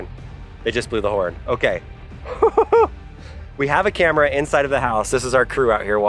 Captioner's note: laughs